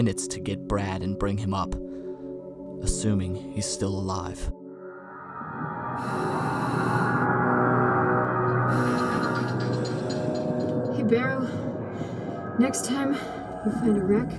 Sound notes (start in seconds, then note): 6.1 air hissing; 13.0 breathing heavily